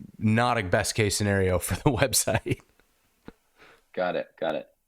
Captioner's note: chuckling